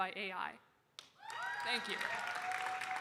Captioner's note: audience cheering and applauding